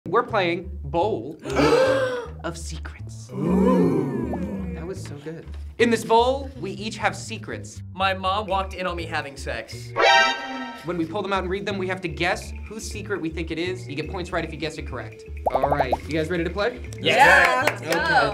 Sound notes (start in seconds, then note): 1.4 group oohs; 3.3 group awes; 10.1 alarm sound